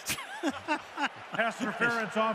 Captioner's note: laughs